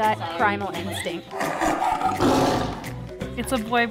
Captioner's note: animal growling